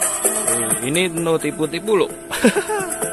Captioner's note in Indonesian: tertawa